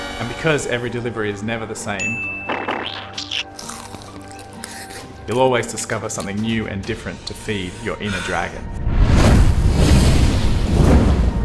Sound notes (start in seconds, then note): 2.0 ding; 2.6 squirting noise; 2.7 crunching; 4.5 slurping; 7.5 panting and blowing; 8.9 fire wooshing